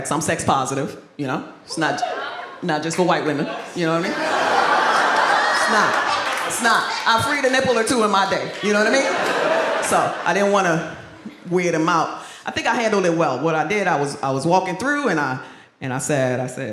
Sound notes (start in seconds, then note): 2.0 man whoops; 5.1 audience laughs